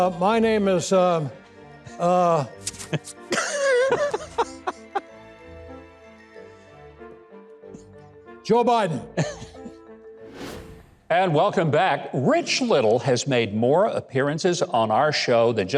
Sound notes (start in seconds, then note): 3.1 playful music; 3.3 host laughing; 10.2 logo whooshing